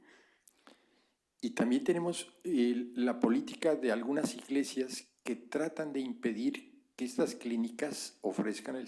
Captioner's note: spanish